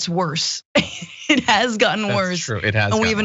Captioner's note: laugh